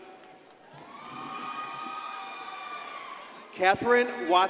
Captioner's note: crowd cheering and applauding